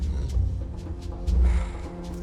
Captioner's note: sighs